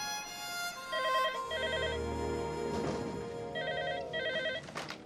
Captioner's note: phone ringing